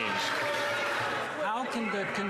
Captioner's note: some Applause